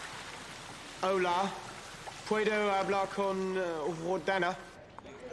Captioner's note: berbicara bahasa spanyol dengan buruk